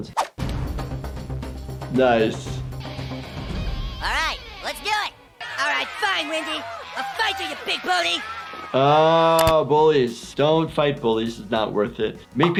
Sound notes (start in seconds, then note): 0.1 dramatic fast paced music; 5.6 kids jeer and shout